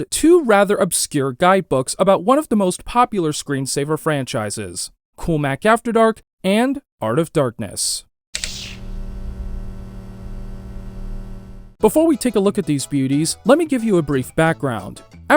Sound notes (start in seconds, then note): 8.4 electric sounds